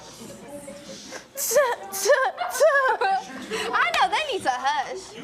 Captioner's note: fake laughing